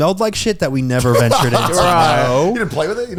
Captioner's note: laughing